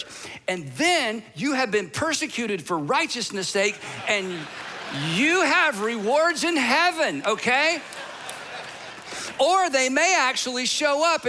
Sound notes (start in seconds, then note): 7.0 audience laughing